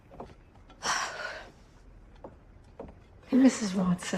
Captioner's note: door closes; exhales